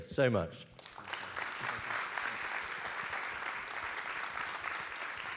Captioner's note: audience applauds